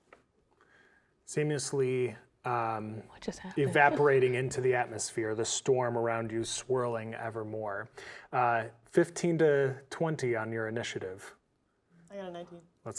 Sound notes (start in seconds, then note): 2.3 whispers